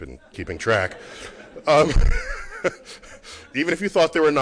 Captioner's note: laughter